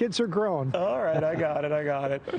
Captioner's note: laughter